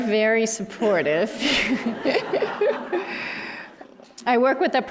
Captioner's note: laughter